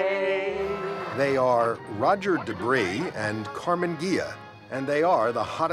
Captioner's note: humm